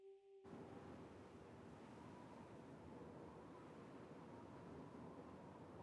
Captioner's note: wind blowing distantly